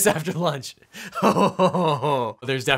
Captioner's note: laughing